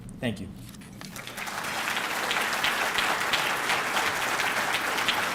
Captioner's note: audience clapping